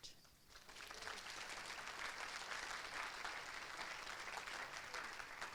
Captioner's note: applause